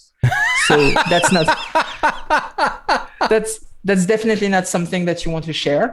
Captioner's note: laughter